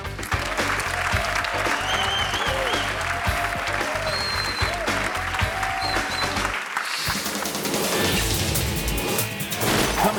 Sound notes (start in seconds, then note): 0.0 upbeat music; 0.0 audience clapping and cheering; 7.0 air whooshes; 7.0 uptempo music